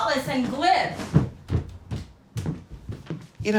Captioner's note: footsteps thudding